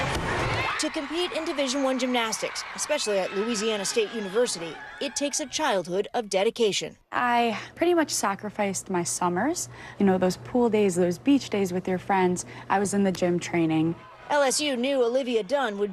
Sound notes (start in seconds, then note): 6.4 cheers